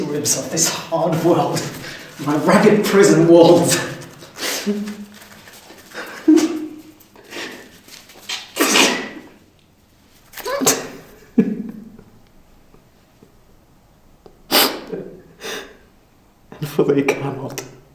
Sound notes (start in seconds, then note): 4.5 sobbing and whimpering; 10.4 crying